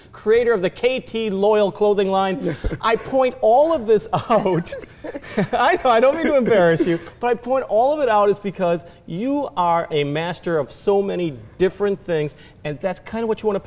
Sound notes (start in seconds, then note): 4.2 laughs